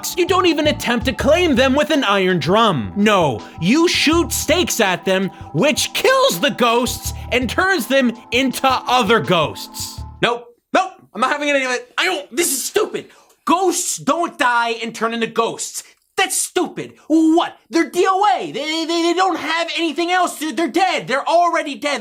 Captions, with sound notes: You Don't even attempt to claim them with an iron drum, NO. You shoot stakes at them, Which kills the ghosts, and turns them into other ghosts. Nope. Nope! I'm not having any of that! I don't-- This is stupid! Ghosts don't die and turn into ghosts. That's stupid, WHAT. They're the-- [stutters] They don't have anything else. They're dead! They're already dead!